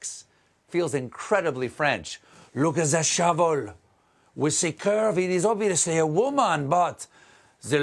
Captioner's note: french accent